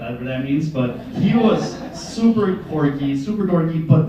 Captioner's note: laughter